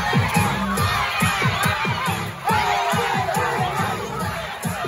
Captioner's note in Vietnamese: Vỗ tay